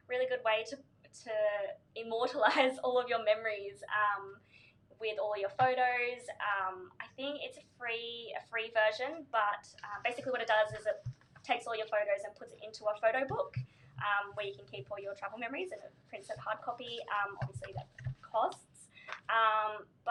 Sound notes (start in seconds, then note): none